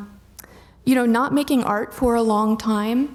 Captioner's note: none